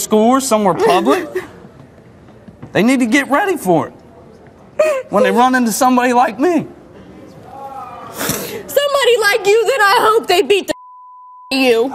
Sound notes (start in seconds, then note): 4.8 cries